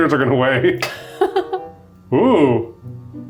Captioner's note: laughs